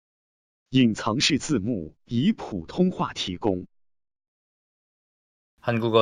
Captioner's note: speaking in foreign language